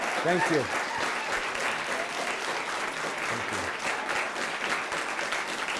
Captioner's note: applause